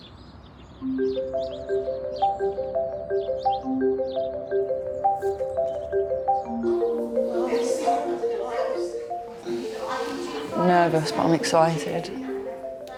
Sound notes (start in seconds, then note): 0.0 birds singing; 0.2 gentle upbeat music; 7.0 people chattering